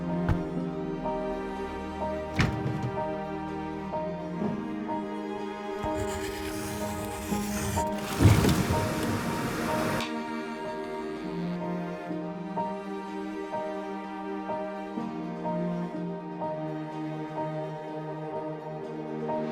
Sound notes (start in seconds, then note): 2.3 refrigerator door opens; 5.8 pencil writing on paper; 7.9 board emerges from water